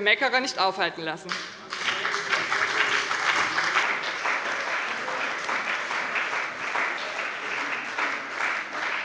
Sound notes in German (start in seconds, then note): 1.2 Beifall bei der CDU und dem BÜNDNIS 90/DIE GRÜNEN